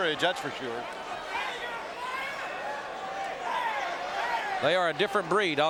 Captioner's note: audience cheering